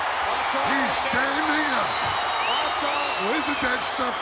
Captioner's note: crowd cheering